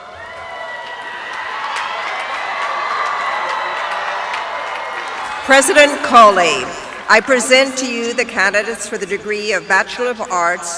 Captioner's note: cheering